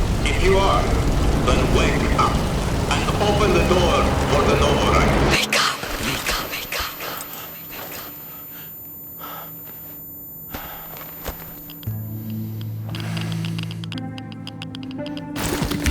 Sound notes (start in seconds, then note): 9.2 gasping; 9.8 ringing; 13.6 sensor crackles